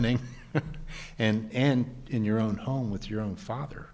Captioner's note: chuckling